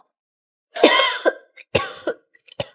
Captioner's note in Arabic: سعال